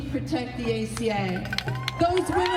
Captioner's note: crowd cheering